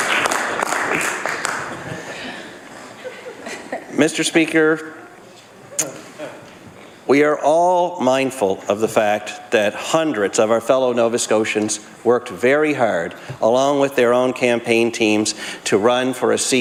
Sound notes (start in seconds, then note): 2.9 some Applause